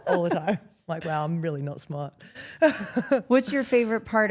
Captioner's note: Steph laughs; laughs